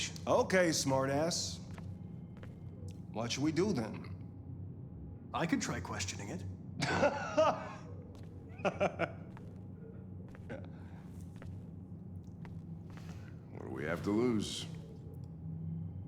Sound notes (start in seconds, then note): 6.8 laughing